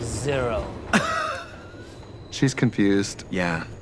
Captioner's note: Katya laughing